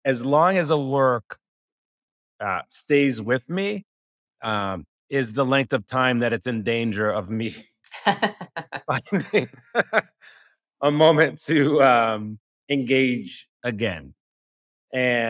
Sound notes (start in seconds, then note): 7.9 laughing